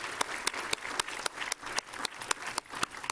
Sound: applause

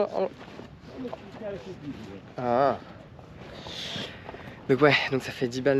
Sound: speaking in foreign language

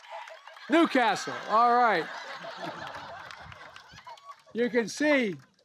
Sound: applause; laughter

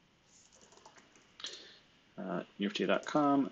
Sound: computer keyboard clicking

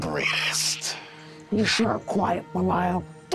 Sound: demons cackling

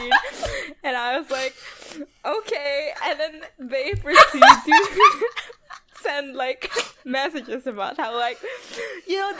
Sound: laughing; laughing

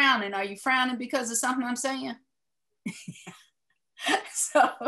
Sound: laughing

